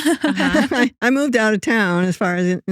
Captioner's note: both Laughing